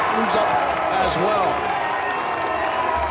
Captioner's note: crowd cheers